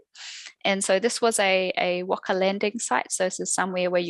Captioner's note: non-english speech